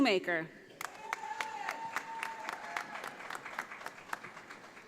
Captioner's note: audience applauding